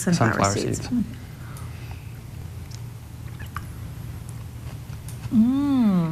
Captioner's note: chewing Sounds